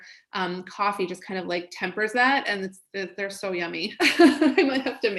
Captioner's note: laughs